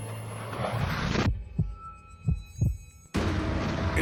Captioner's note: heart beat